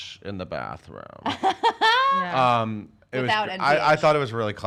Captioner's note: laughing